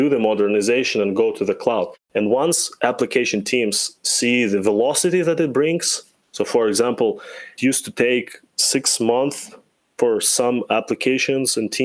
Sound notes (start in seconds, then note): none